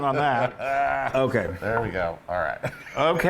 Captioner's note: laugh